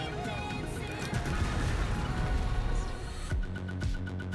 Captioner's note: explosion booming; upbeat music